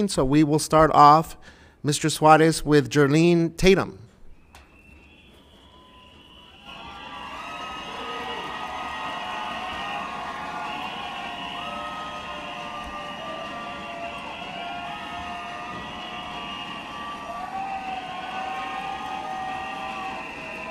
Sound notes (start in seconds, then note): 6.1 loud cheering; 6.1 whistles blow